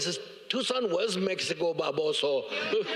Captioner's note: Cheech laughs